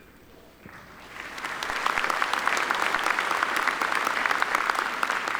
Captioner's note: audience applauding